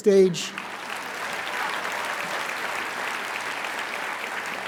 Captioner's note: raucous applauding